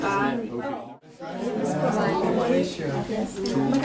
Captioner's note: indistinct conversation